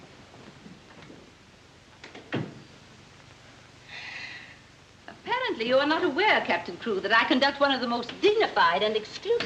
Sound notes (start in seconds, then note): 2.0 door closes; 3.9 sighs